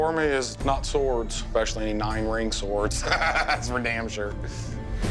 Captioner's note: laughs